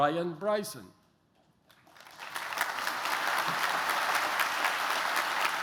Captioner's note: applause